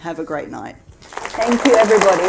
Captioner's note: audience applauding